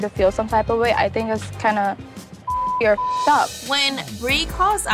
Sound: beep

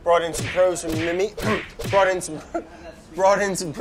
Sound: giggles

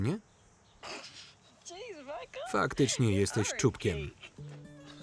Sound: laughs loudly; soft instrumental music

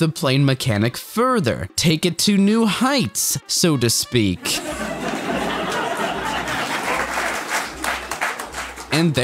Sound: laugh track

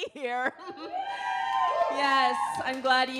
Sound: audience yells

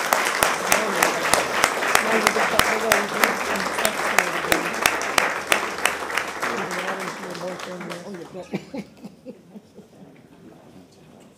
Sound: applause

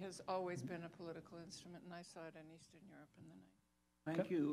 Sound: off mic

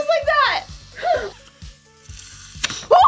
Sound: gasps; laughs

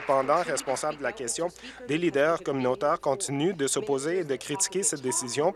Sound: applause

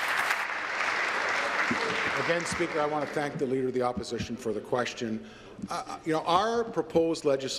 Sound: applause

